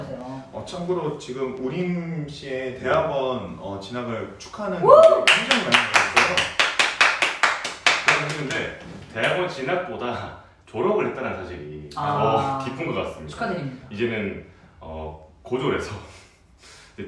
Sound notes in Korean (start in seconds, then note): 4.9 축하의박수